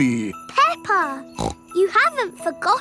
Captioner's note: snorts